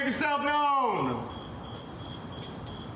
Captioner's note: crickets chirping